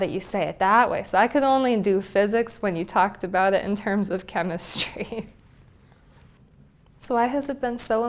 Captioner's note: laugh